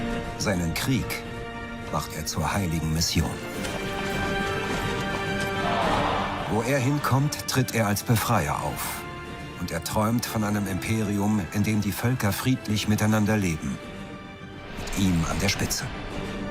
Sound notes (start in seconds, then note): 4.8 commotion